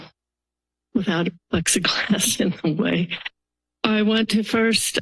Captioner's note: chuckles